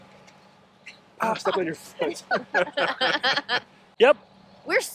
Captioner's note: laughs